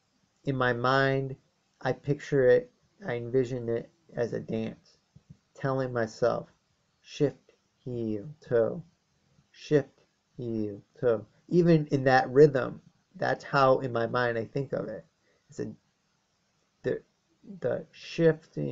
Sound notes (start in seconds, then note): 5.2 speaking in a rhythm; 9.4 resumes regular voice